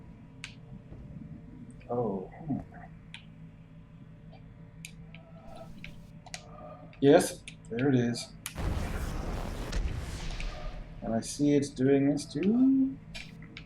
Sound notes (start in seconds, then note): none